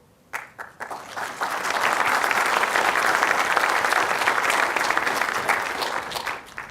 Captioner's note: applause